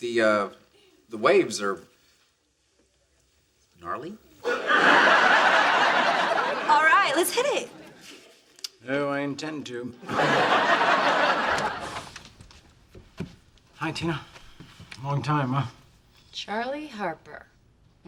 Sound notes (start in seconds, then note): 4.4 audience laughs; 10.0 audience laughs; 11.7 door opens